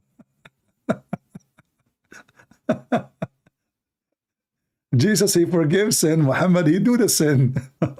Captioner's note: Ketawa